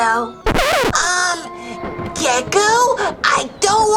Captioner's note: record scratch